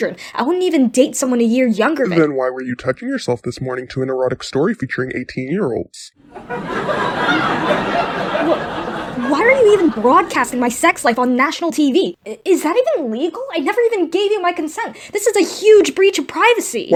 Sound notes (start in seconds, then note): 6.2 audience cackles